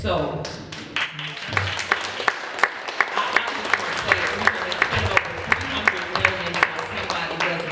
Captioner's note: applause